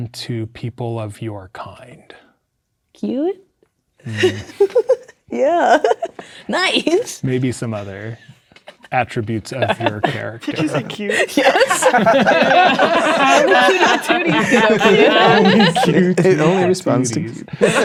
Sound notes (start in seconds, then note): 4.1 laughing; 12.0 players laughing